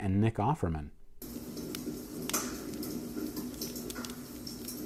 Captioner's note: fire crackling